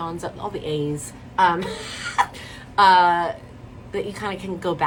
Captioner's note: laughs